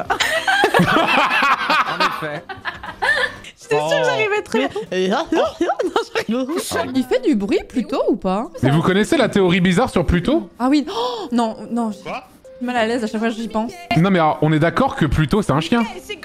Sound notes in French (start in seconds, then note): 0.0 rires; 10.9 gasp